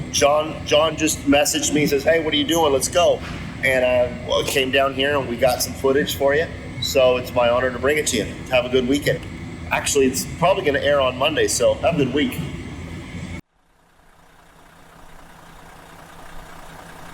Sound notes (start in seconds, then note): 14.0 engine runs